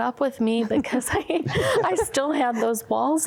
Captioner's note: laughter